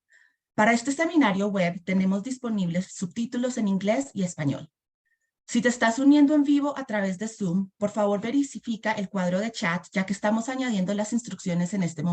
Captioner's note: foreign language